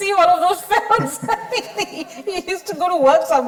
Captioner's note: chuckling